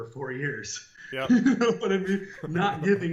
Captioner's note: laughter